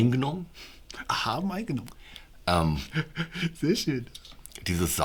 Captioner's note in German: Lachen